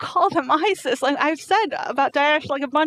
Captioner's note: speaking in foreign language